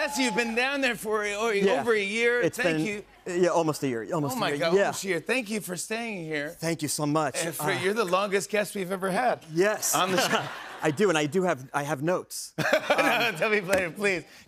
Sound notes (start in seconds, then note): 12.5 laughter